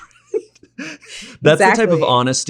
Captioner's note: both laugh